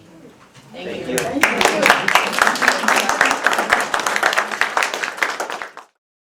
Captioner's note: applause